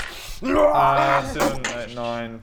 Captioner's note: rwargghgh!